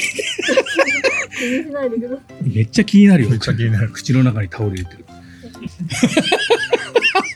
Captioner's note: laughs